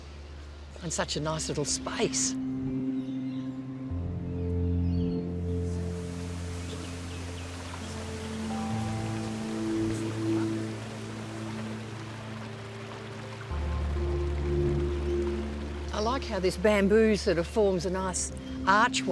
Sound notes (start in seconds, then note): 6.2 water flowing